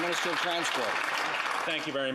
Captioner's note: applause